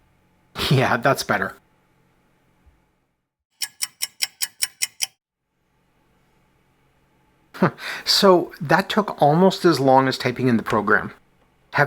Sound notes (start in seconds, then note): 3.6 clock ticking; 7.6 chuckles